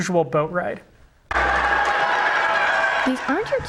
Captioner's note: cheering